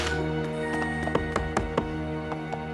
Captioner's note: knocking